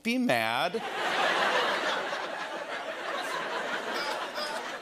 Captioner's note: laughter